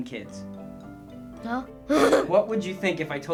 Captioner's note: laughs